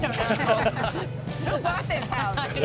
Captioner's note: laughter